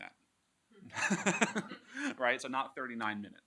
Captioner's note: laughing